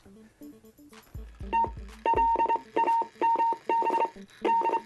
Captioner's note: beeping